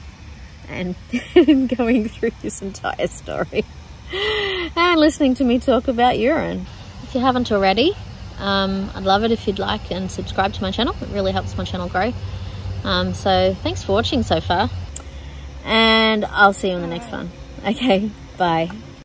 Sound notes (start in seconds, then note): 1.1 laughing; 1.1 laughs